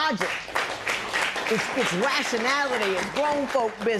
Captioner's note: applause